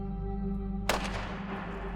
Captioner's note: gunshot